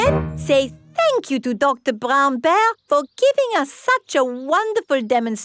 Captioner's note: none